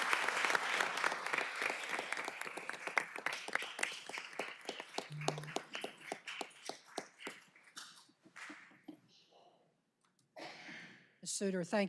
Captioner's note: applause